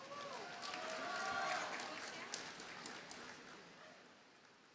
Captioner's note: audience cheers and applauds